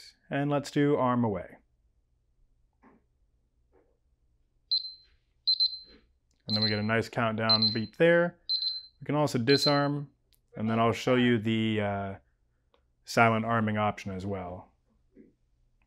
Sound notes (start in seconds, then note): 4.5 phone beeping